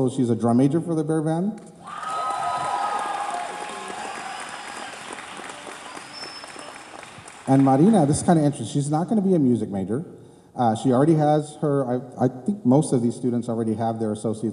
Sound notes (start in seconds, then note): 1.8 cheers